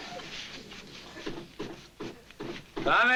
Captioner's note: knocking on door